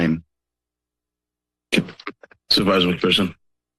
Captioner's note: silence